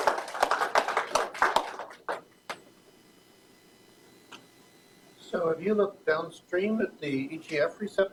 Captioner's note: applause